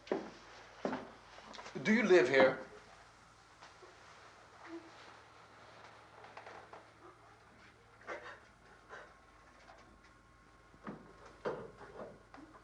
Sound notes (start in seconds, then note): none